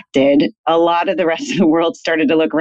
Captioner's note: laughs